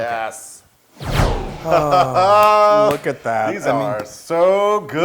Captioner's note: laugh